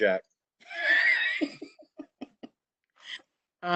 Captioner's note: all laugh